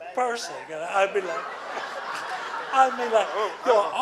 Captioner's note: laughing